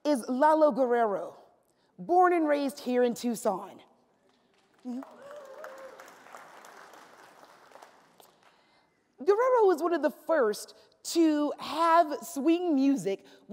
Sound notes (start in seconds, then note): 4.9 cheers